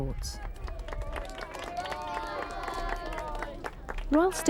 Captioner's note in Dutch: publiek applaudisseert